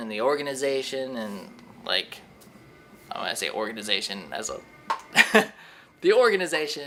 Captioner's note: laughs